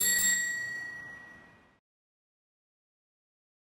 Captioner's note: bell chiming